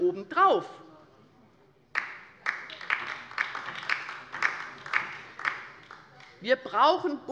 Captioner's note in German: Beifall bei der LINKEN